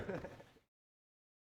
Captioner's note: laughter